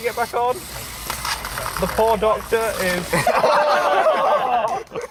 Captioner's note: laughter